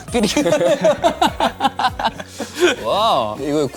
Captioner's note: haha